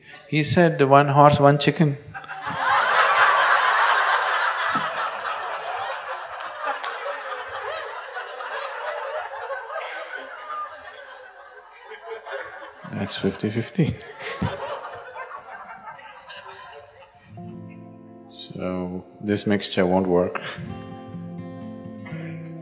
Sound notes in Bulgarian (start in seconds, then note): 4.7 всички се смеят